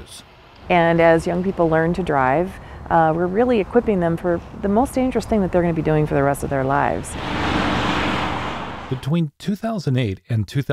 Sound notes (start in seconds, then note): 7.0 sound of traffic on freeway